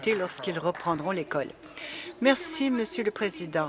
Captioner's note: applause